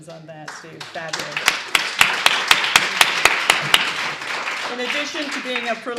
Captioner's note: applause